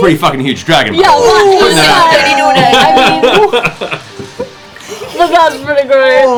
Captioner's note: laughter